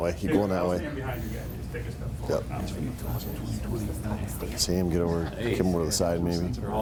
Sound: people chatter and giggle indistinctly

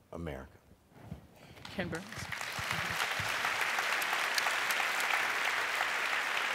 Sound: applause

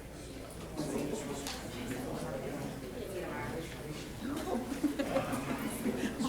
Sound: audience members chattering

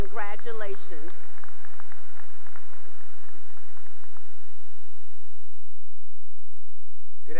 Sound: applause

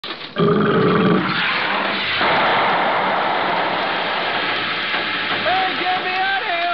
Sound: metal clanking, gas hissing

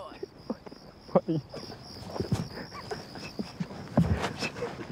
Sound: laughs

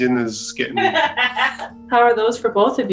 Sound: laughs

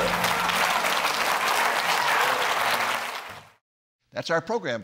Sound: clapping

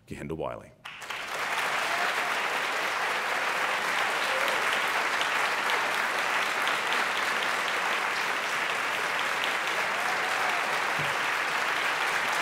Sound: applause

